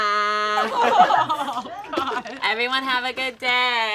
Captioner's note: all laugh